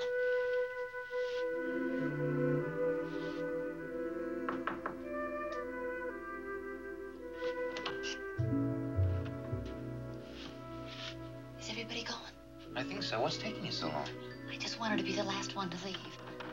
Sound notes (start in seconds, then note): none